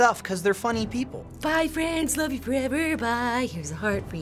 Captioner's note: singsong